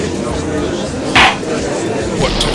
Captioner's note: gallery chattering; gavel slams!